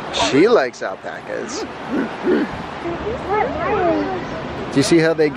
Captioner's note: barks like Janae when she sees a dog